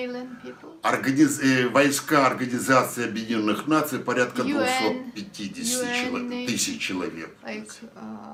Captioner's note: foreign language